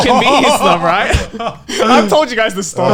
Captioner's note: laughing